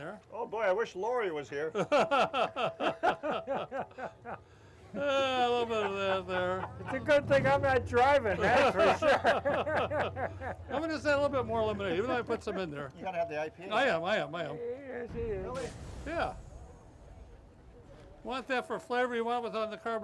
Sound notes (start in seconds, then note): 2.1 laughing; 9.0 laughing